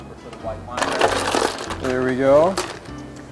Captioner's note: shells clattering